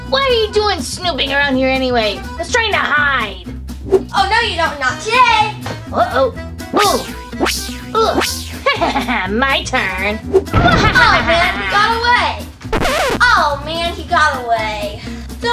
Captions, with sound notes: What are you doing snooping around here anyway? I was trying to hide! - Oh, no, you don't. Not today! - Oh, oh. (synth whooshes) (chuckles) - My turn! (boom) - Oh, man. He got away! (record scratch) Oh, man, he got away.